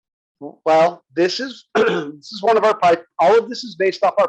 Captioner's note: cough